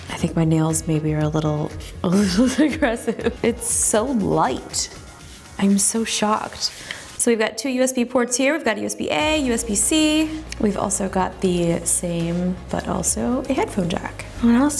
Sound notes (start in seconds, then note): 2.1 chuckles; 9.0 light electronic music